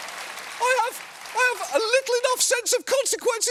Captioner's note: applause